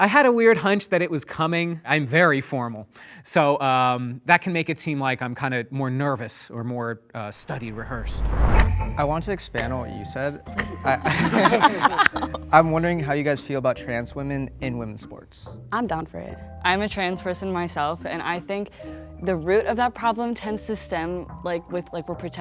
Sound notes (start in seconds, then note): 10.6 everyone laughing